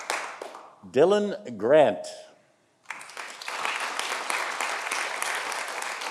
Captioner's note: audience applauding